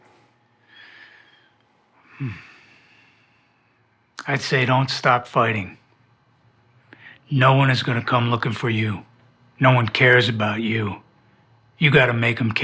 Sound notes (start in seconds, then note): 2.0 sighs